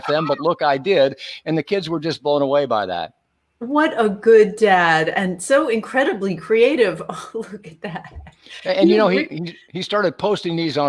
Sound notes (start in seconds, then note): 7.7 laughing